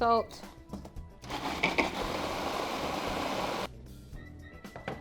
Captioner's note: blender whirs